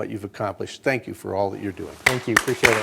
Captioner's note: applause